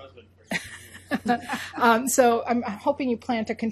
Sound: laughing

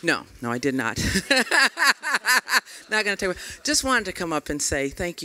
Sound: laughter

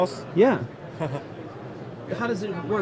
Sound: laughing

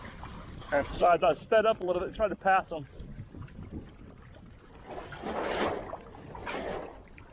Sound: sound of wind whipping sail

